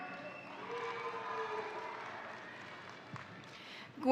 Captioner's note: crowd cheering; crowd applauding